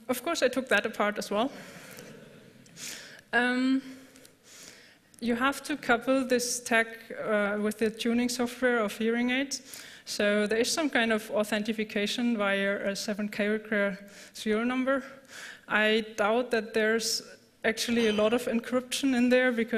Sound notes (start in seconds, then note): 2.0 laughter